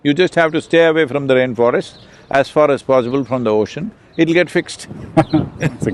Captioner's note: both laugh